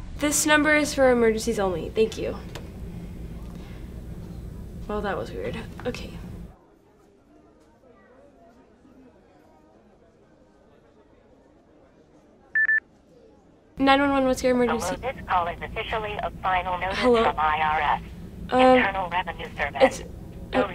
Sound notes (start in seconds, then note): 12.5 headset beeps; 15.1 automated Voice